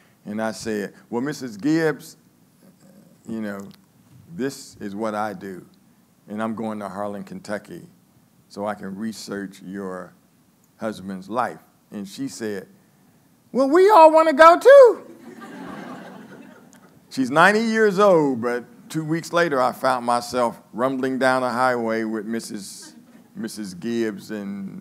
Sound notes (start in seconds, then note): 15.0 laughing